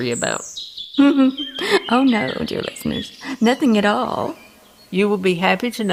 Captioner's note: giggles ominously